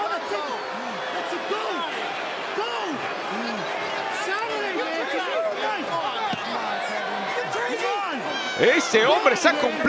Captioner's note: applause